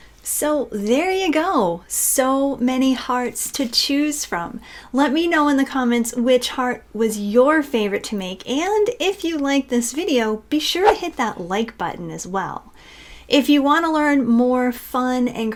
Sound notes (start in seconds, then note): 10.8 air whooshing